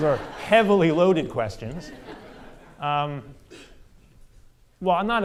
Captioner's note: audience laughter